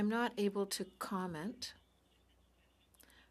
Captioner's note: speaking French